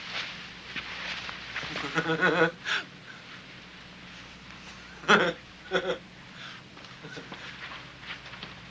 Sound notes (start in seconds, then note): 1.8 Casey laughing